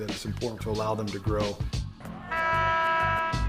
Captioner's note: horn blows